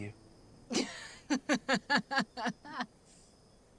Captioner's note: laughing scornfully